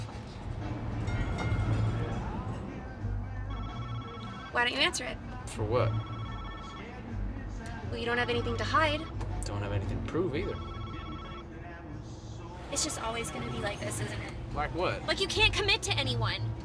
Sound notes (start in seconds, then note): 0.8 phone ringing